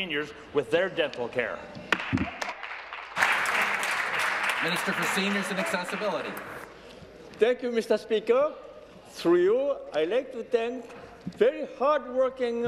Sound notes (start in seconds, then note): 4.7 applause